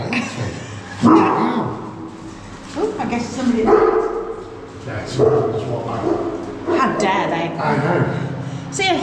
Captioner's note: dog bark